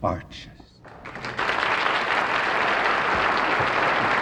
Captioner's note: audience applauds